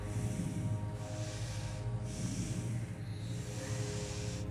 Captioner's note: slow deep breathing